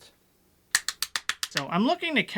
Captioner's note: clapping